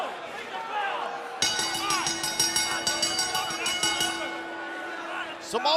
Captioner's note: bell ringing